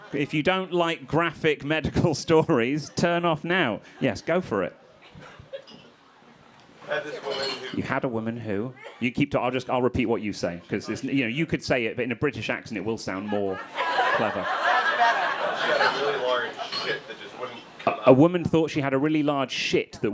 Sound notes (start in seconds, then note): 13.1 crowd laughing